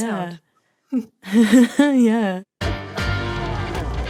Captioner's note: both snicker